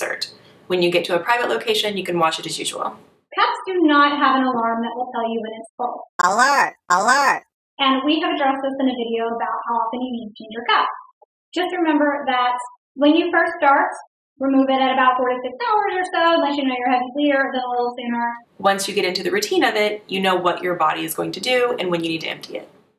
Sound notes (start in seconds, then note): 6.2 alert